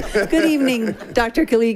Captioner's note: group laughing